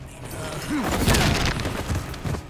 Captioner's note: crack